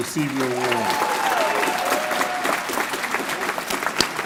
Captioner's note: applause